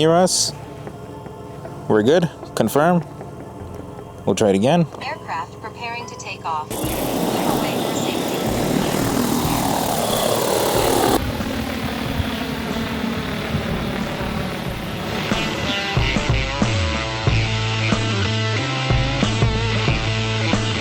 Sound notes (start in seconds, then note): 6.6 upbeat music; 7.1 aircraft motors roaring; 20.5 aircraft motor roaring